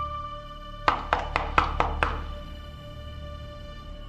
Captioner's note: knocking on door